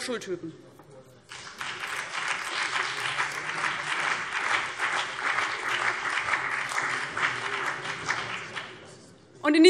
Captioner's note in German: Beifall BÜNDNIS 90/DIE GRÜNEN und vereinzelt CDU